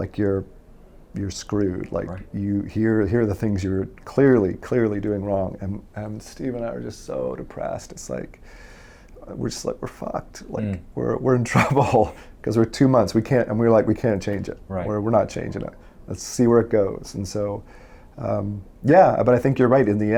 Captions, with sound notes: Like, "You're screwed." Like, "Here are the things you're clearly, "clearly doing wrong." And Steve and I were just so depressed. We're just like, "We're fucked. "We're in trouble." (laughs) Because we're two months. We were like, we can't change it. We're not changing it. Let's see where it goes. And so, yeah, but I think you're right.